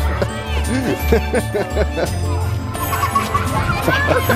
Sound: laughing

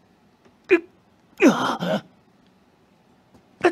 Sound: grunts in confusion

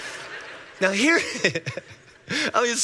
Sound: congregation laughing; laughing

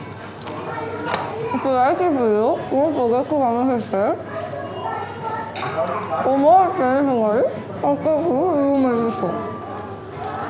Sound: nom nom nom

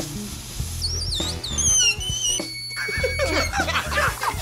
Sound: suction sound

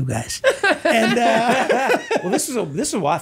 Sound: all laughing

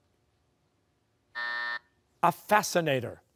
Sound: buzzer

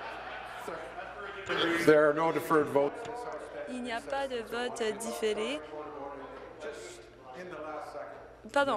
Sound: chuckles

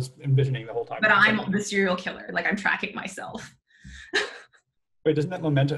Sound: chuckles

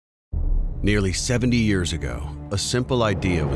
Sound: voiceover

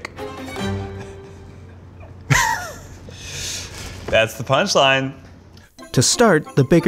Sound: giggles

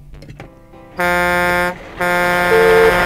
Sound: horn honking

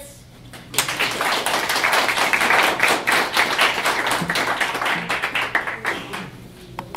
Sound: audience clapping

